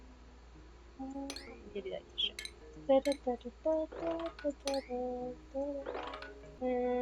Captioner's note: more humming